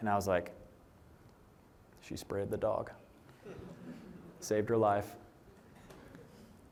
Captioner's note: laughter